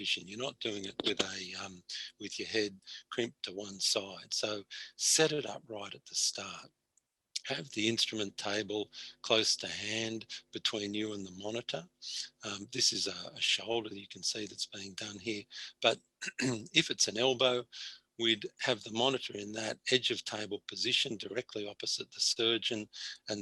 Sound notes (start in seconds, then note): 16.2 clears throat